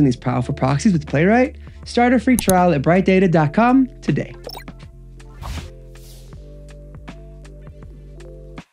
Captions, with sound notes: these powerful proxies with Playwright? Start a free trial at brightdata.com today. (graphics chimes) (graphics swooshing) (gentle music)